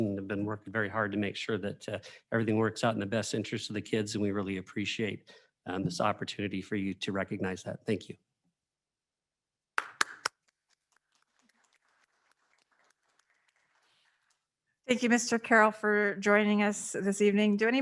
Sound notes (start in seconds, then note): 9.8 claps